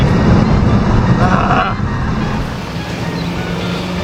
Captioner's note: grunts